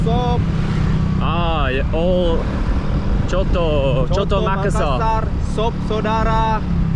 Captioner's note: speaking local language